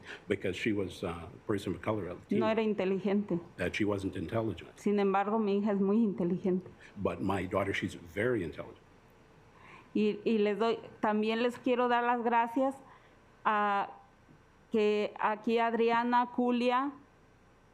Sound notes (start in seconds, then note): 0.0 speaking Spanish; 2.2 speaking Spanish; 4.8 speaking Spanish; 9.8 speaking Spanish